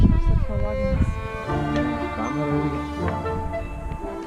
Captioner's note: the wind howls